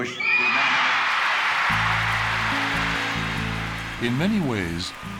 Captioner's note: cheering and applause